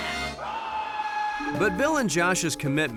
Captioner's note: screaming